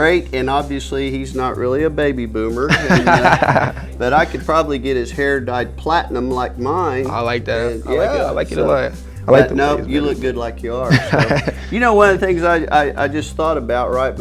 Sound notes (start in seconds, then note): 2.7 laughing